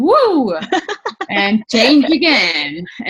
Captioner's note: laughs